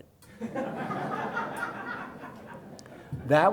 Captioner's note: everyone laughs